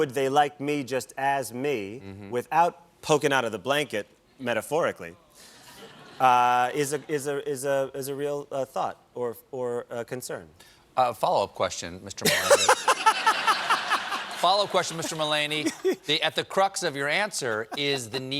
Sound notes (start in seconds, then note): 12.2 laughter